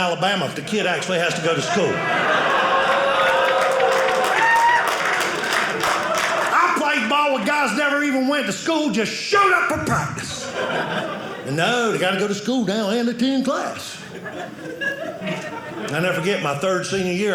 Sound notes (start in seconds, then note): 1.3 audience cheering; 13.8 audience laughing